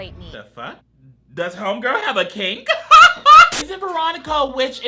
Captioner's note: laughs